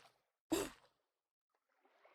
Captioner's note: gasp